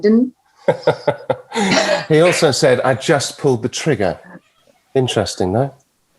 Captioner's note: chuckling